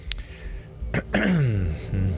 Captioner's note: clears throat